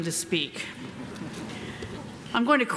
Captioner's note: audience chuckling